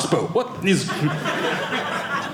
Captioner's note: audience laughing